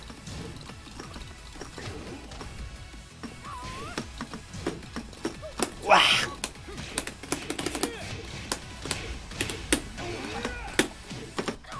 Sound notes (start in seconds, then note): 5.8 meow